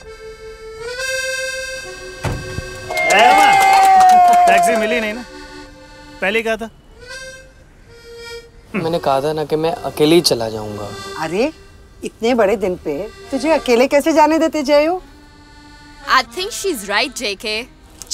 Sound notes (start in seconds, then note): 2.8 cheers